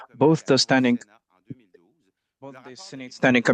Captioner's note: speaking French